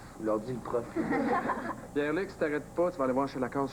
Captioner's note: Rires